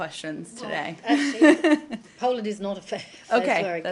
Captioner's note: laughter